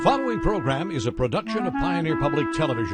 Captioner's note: voiceover